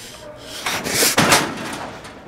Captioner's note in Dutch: kastje slaat weer dicht